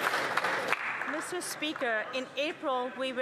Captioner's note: some Applause